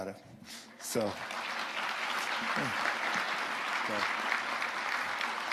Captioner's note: audience applauding